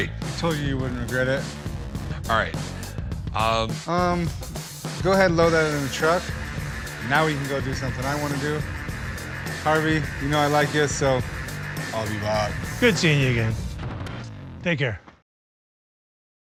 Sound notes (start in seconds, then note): 11.2 german accent